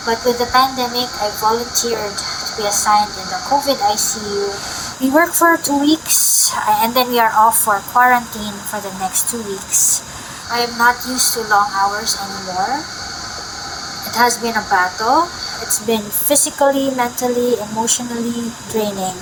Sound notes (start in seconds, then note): none